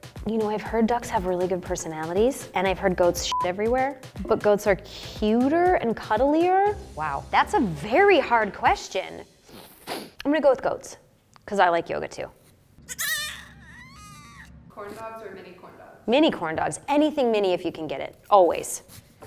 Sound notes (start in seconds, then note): 3.3 beep; 9.4 sniffs; 12.8 goat crying